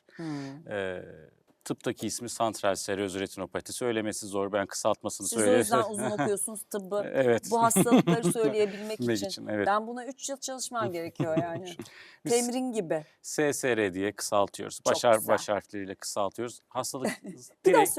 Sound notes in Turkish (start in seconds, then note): 7.5 kahkaha